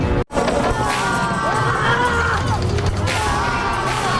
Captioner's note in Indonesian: berteriak